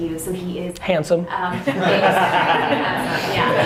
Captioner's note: laughs